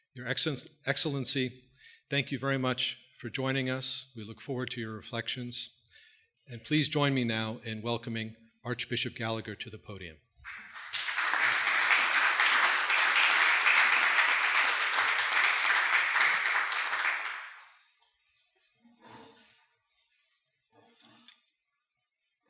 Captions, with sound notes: Your Excellency, thank you very much for joining us, we look forward to your reflections. And please join me now in welcoming Archbishop Gallagher to the podium. (audience applauding)